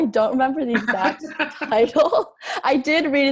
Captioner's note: laughs